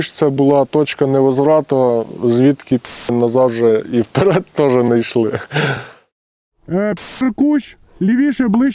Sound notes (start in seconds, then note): 5.2 laughs; 6.8 russian